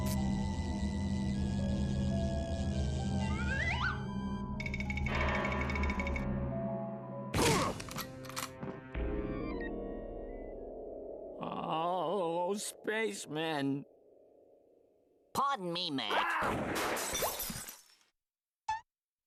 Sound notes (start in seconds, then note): 7.2 grunting; 7.8 gun cocking; 16.4 gun firing; 16.7 glass breaking